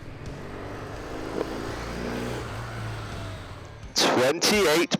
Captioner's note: bike engine revving